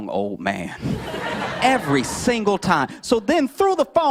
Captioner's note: laughter